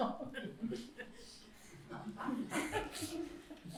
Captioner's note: laughter